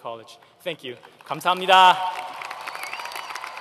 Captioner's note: foreign Language; applause